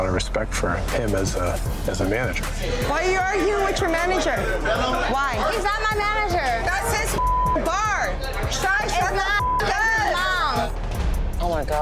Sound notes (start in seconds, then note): 7.1 beep